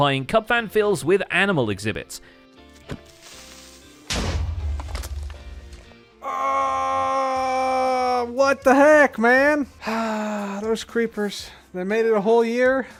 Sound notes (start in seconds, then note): 2.3 axe strike; 2.3 explosion; 2.9 creeper sizzles; 9.8 sighs